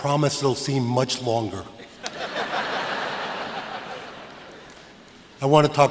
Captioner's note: laughter